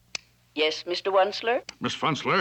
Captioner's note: over intercom